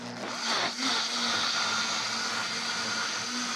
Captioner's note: blender whirs